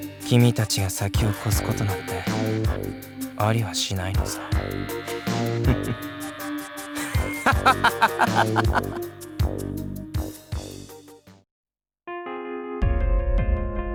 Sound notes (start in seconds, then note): 5.0 chuckle; 7.0 laugh